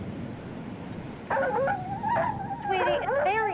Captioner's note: dog barking